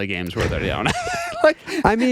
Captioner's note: laughs